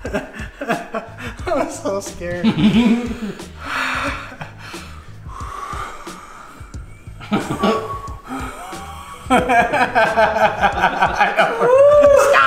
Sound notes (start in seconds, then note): 0.0 laughing; 4.6 exhaling loudly; 9.4 laughing